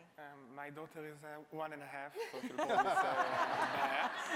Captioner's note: laughs